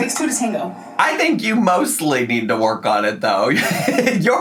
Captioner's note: laughs